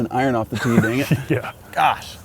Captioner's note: laughs